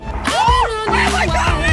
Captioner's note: screaming